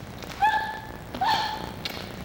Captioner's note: gasping